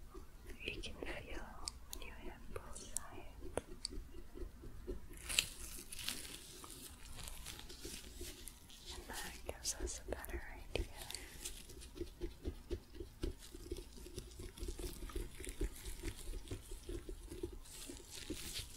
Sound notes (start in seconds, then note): 3.4 light tapping, sticky sounds; 11.6 tapping, sticky sounds